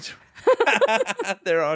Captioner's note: laughs